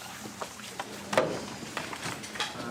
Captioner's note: background chatter